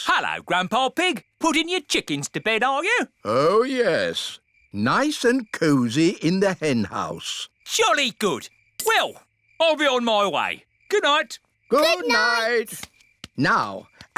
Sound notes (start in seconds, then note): none